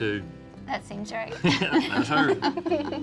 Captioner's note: giggling